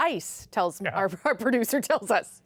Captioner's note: laughter